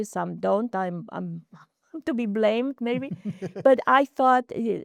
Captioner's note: laughing